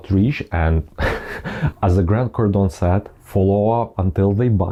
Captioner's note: laughs